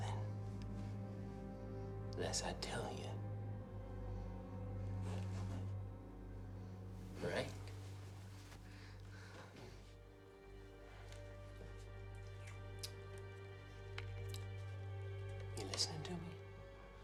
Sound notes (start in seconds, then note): none